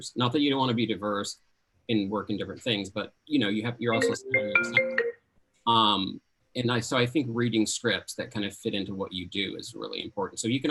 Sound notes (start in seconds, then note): 3.9 phone ringing